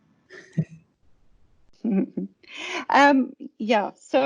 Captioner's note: laughing